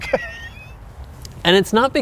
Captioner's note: laughing